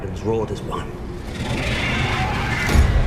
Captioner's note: dragon roars; intense music plays